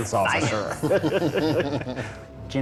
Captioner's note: all laugh